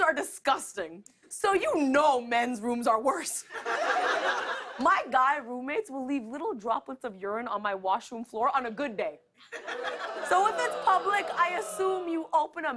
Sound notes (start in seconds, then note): 3.4 laughter